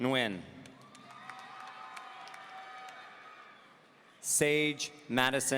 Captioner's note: audience cheering